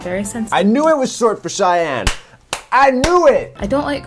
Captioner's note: claps